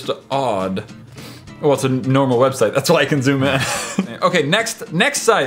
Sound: laughs

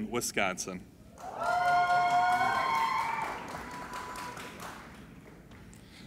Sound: applauding and cheering

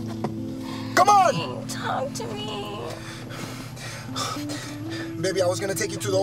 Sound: crying

